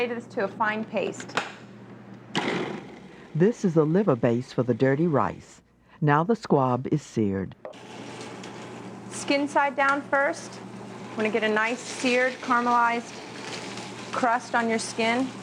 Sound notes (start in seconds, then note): 4.6 voiceover